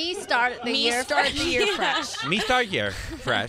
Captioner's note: laughing